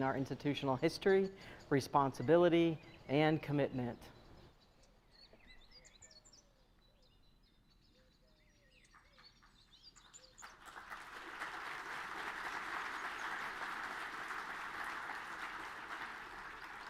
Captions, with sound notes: our institutional history, responsibility, and commitment. (birds chirping) (audience clapping)